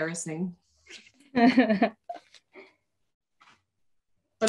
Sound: laughs

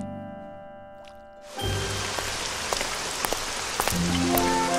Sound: rain pattering

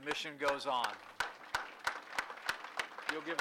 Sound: applause

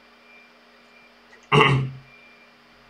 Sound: kkm kkm

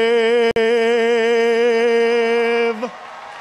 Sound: applause

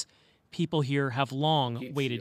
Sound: speaking indigenous language

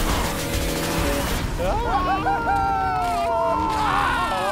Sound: upbeat energetic music; excited yells; car engine roaring

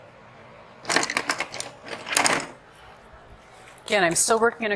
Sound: paintbrushes clattering

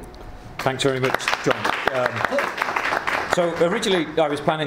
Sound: clapping

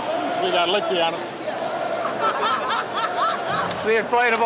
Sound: laughing

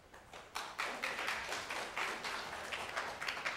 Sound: applause

